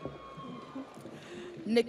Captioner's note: audience cheers; audience applauds